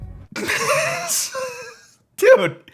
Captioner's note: laughing